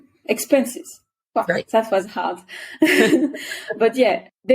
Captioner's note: laughs